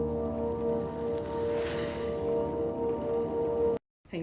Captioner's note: whistling